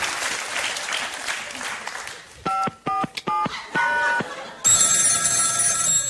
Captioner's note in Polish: Aplauz